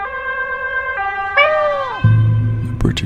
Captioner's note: meow